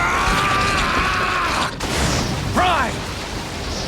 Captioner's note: prime yells